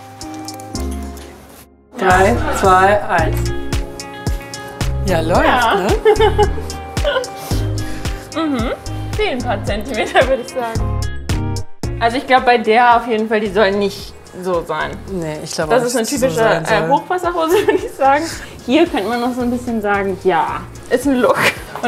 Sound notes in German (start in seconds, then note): 0.1 Dynamische Musik; 5.0 Dynamische Musik, Lachen; 5.6 lachend